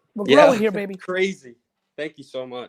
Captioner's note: laughs